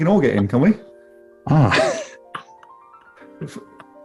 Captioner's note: sniggering